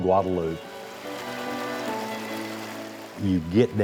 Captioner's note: water flowing